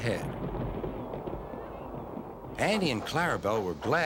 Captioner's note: thunder rumbling